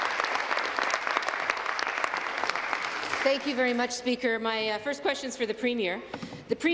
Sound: applause

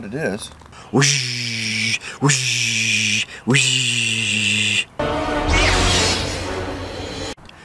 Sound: lightsaber sounds

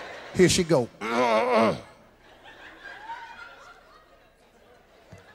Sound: audience laughs; Steve clears throat; audience laughs

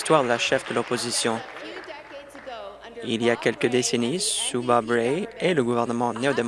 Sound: applause

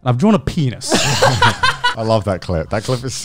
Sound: laughs

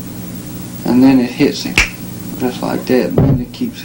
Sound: snaps fingers

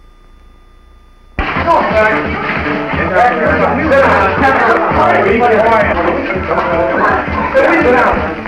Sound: chaotic sounds as police enter a home

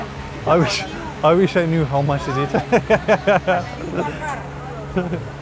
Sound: laugh

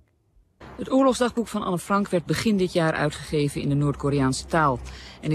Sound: speaking in foreign language

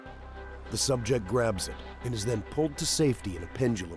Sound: voiceover

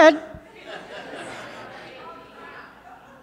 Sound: audience laughing

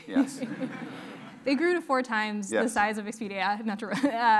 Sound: laugh

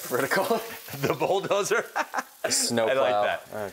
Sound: laughs

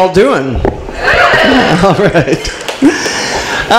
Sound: audience cheers

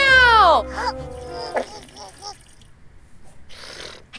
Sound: baby grunting; passing gas

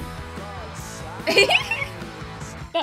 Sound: giggles

